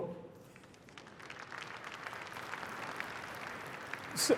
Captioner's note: applause